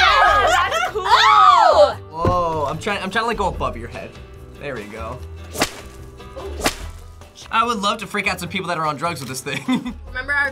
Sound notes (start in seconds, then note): 5.5 whip cracks; 10.0 laughs